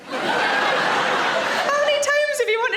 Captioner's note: audience laughs